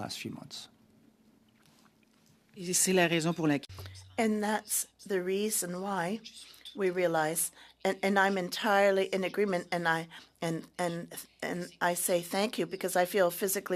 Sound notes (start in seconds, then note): 11.5 speaking French